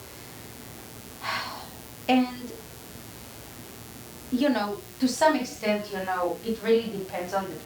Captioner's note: sighs